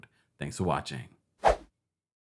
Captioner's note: air whooshing